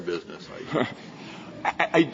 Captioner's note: laughter